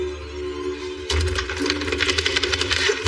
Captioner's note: knob turns; banging